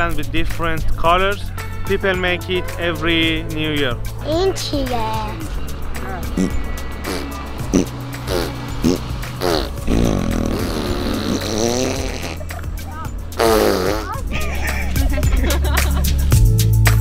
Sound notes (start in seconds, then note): 4.3 boy speaking Farsi; 6.3 man and boy blowing lips; 14.2 laughter